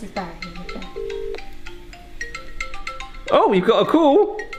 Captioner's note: phone rings